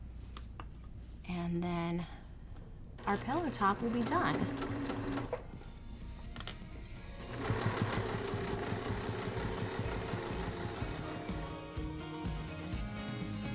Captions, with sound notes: and then our pillow top will be done. (machine whirring) (upbeat music)